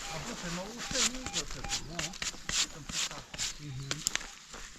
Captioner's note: brush swooshing